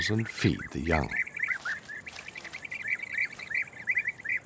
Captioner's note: birds chirping